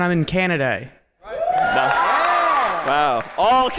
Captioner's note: cheering